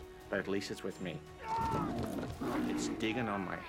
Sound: groans; bear growls

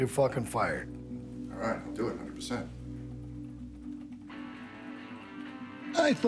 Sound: none

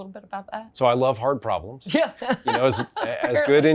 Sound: laughing

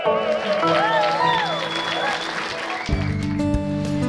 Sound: cheering

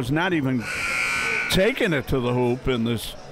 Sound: buzzer sounding

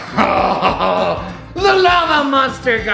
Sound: maniacal laughing

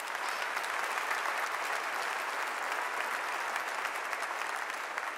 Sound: audience applauding

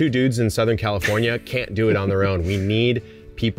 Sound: laughing

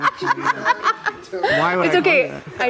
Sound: laughs

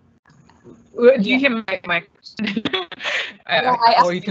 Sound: laughing

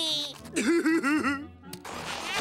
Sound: laughing

